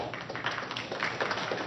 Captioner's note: applause